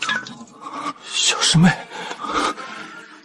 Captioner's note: whispering